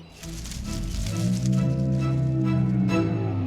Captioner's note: growling